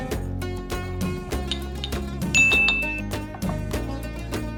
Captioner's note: ceramic clinking; upbeat uplifting music continuing